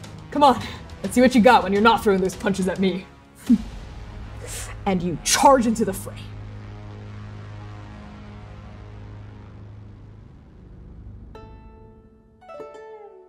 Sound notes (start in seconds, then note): 4.4 scoffing; 9.2 reflective music